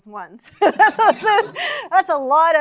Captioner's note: laughter